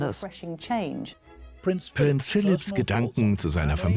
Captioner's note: voiceover